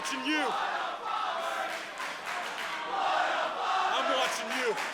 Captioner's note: crowd cheering